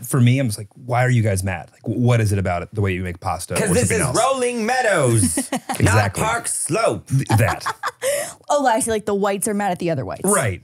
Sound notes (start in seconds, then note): 5.2 laughing